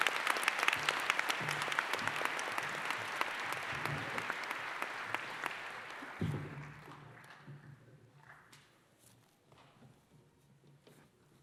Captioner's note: applause